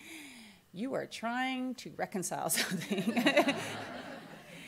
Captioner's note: laughs